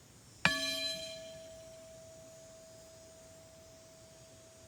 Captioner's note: bowl clanging